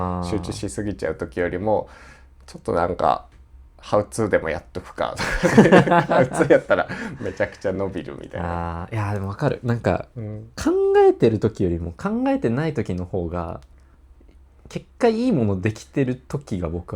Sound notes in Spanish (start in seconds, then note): 5.1 risas